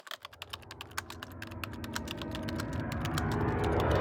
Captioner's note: typewriter sounds